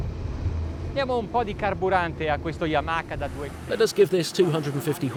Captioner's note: speaking foreign language